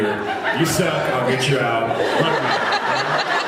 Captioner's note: laughs